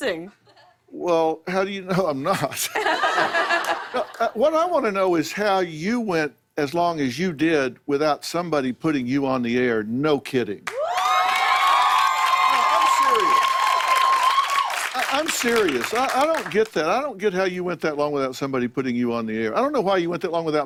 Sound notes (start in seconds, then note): 2.5 laughter; 10.6 cheers and applause